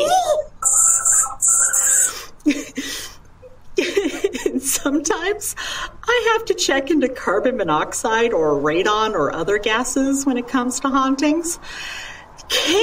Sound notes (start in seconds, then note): 4.1 chuckles